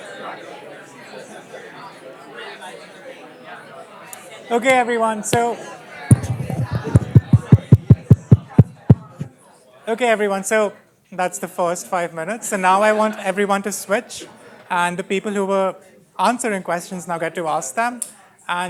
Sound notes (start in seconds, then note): 6.1 tapping noises